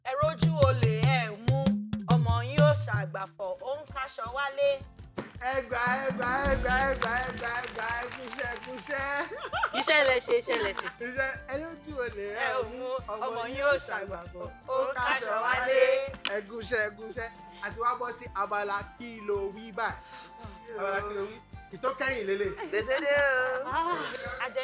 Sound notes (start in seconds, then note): 6.9 laughs